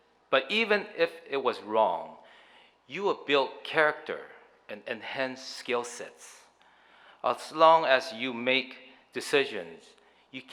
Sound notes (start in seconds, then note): none